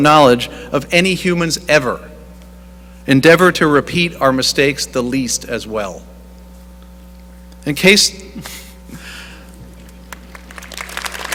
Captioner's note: chuckling